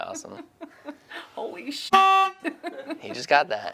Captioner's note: honk